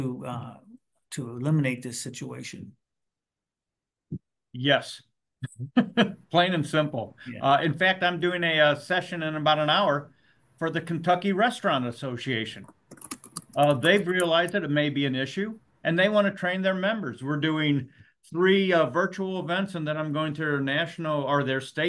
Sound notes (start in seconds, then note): 12.6 brief keyboard typing